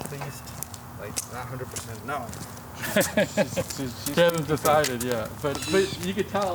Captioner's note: men conversing